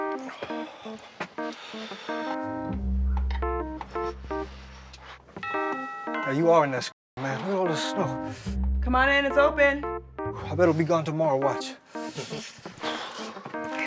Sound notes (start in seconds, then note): 5.4 doorbell chimes